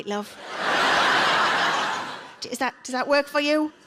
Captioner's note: audience laughs